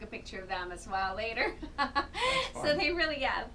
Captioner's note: laughs